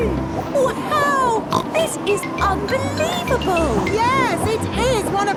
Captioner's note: snorts